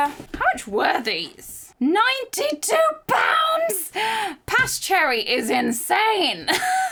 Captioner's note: chuckling